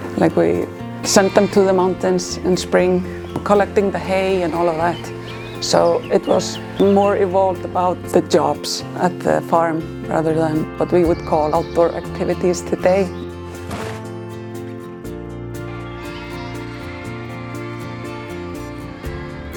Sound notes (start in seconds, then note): 13.6 hay thudding; 16.1 calm music